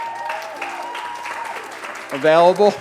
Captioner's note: applause